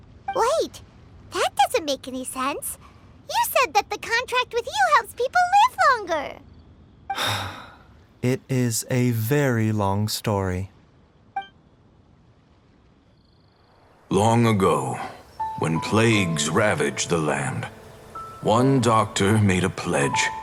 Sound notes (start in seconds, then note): 7.1 sigh